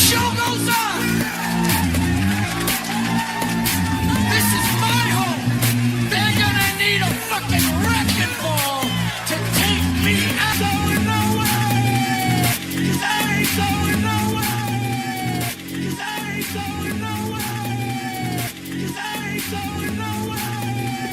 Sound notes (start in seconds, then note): 2.6 applause; 11.5 Aplauze